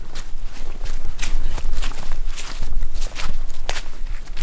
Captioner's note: footsteps pattering